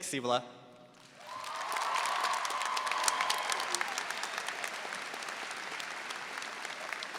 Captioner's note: audience applauding; audience cheering